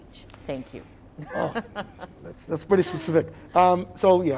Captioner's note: laughing